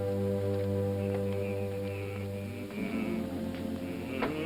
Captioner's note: humming